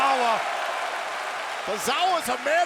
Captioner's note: audience cheering